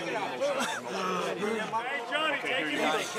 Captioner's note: crowd chatter